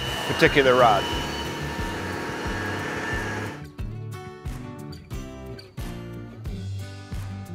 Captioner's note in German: Werkzeug surrt; Fröhliche Musik geht weiter